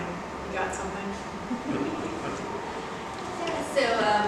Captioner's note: laughs